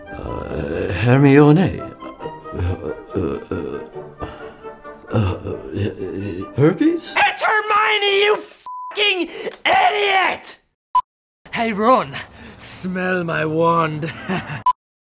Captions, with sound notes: Uh... Hermi-o-nay... (stammering) - Herpes? - It's Hermione, you f--king idiot! Hey, Ron, smell my wand. (chuckles)